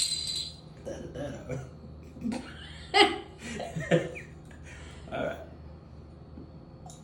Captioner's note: laughter